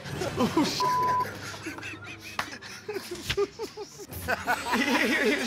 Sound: laughter

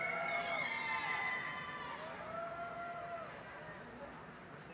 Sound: cheering

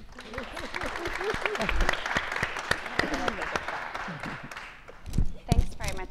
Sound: applause

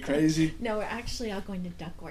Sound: voiceover

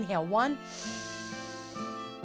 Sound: breathing in through the nose; gentle music swells

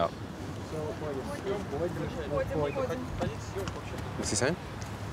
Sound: speaking in foreign language

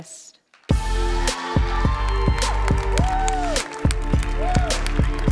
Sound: audience applauds

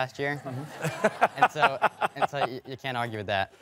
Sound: laughter

